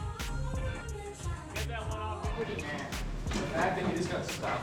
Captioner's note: players indistinctly chatting